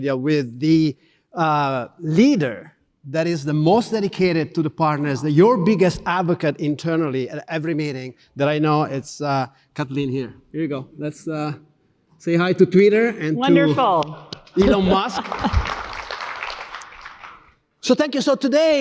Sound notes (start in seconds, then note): 13.5 audience clapping; 13.9 clapping